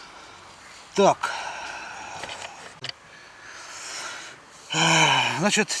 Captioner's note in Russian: вздыхает